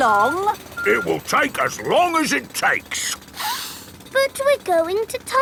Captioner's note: sniffs